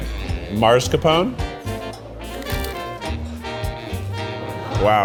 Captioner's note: light music; crunches